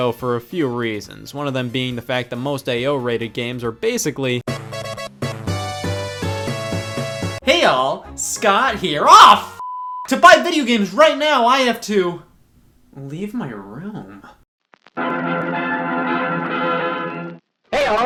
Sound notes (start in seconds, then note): 4.5 upbeat electronic music; 9.6 beep; 15.0 old-timey music